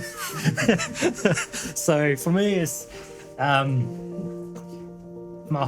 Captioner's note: laughing